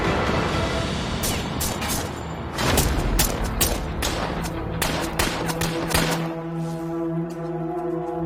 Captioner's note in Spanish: Disparos